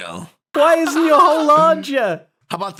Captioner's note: panicked laughter